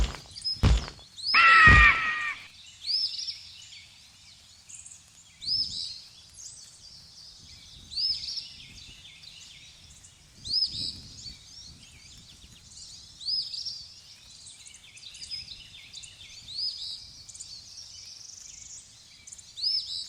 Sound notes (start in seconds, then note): 1.3 eagle shrieking; 1.4 wings flapping; 3.0 birds chirping